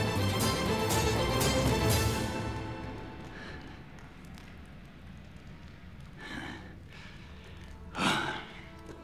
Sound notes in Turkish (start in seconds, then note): 3.7 Ateş çıtırtı sesi; 7.6 Nefes sesi